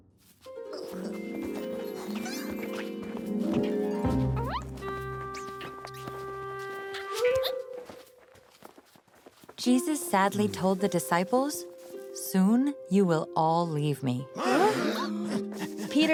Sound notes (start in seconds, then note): 3.6 footsteps; 14.4 gasps